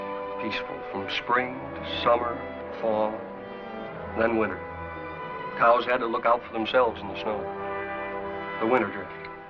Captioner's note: bell